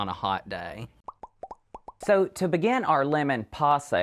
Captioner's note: graphics popping